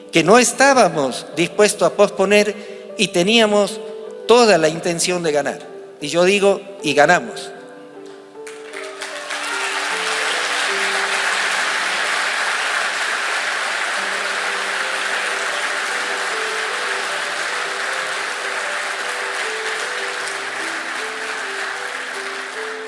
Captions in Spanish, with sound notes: que no estabamos dispuestos a posponer y teníamos toda la intención de ganar y yo digo "Y Ganamos !" (aplausos)